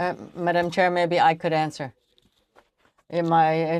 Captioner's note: speaking French